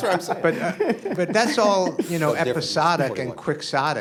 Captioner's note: laughter